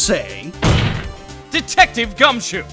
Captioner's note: slam